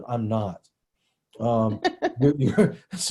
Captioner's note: laughs